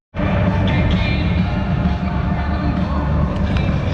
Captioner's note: crowd chattering